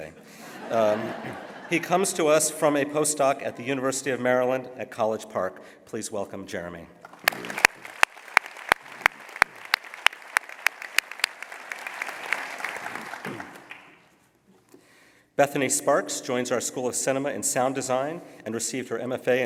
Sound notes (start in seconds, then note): 7.0 applause